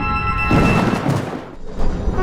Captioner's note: thunder noise